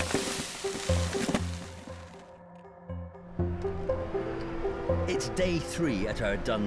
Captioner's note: debris clattering; sparse thoughtful music